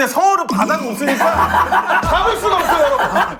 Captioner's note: choked up